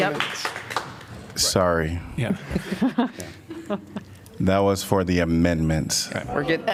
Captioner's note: laughter